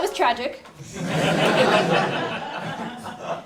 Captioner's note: laugh